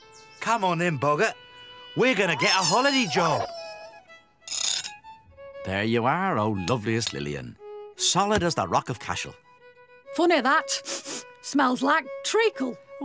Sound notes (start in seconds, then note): 4.3 scrape!; 10.8 sniff!